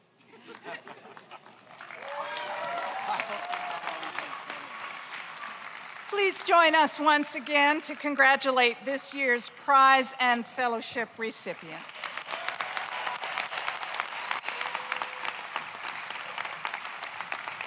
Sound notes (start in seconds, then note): 0.3 group laughs; 1.8 audience cheers; 2.1 audience applauds; 11.8 audience applauds; 12.1 audience cheers